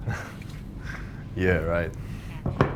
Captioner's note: laughing